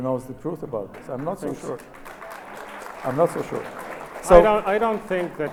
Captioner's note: audience applauds